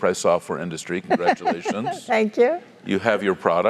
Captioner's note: laugh